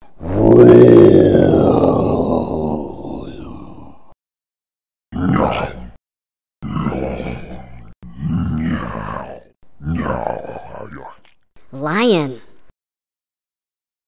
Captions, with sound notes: roarrrrrrrrrrr [ chewing ] lion